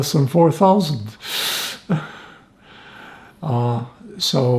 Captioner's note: laughing